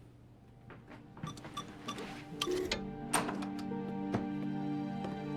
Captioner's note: electronic lock beeping; gentle music